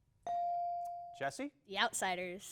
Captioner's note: bell dings